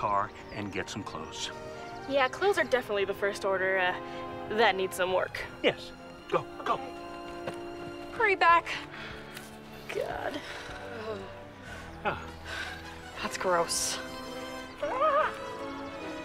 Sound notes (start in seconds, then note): 12.8 yelling